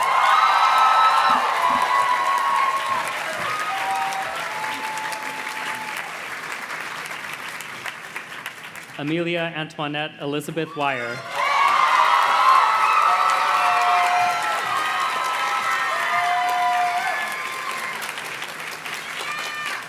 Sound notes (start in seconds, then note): 0.0 audience cheers and claps; 11.0 audience cheers and claps